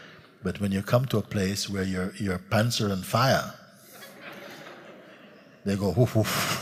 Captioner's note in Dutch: gelach